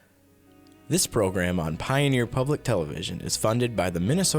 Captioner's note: voiceover